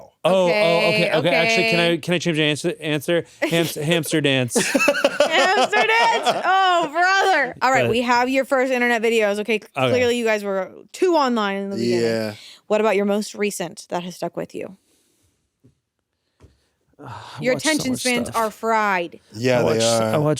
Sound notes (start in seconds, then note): 4.5 laughs